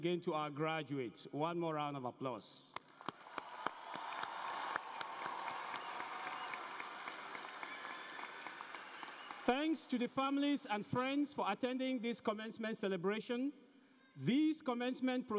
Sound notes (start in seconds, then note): 9.3 applause